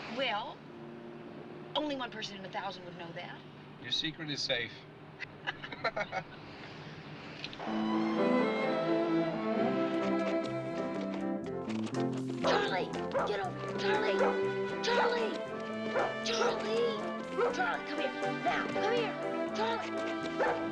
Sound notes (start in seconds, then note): 4.0 laughing; 13.0 barking